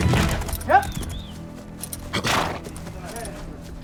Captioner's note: snorting